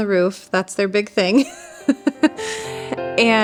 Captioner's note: laughs